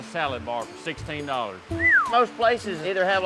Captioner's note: whistles